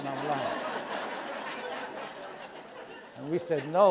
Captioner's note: laughter